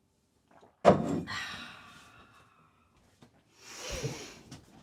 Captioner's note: Betsy sighs